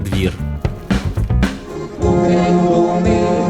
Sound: tires rustle on paving stones; music and singing in Czech

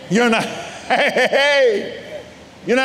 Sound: giggling

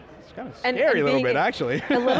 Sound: laughing

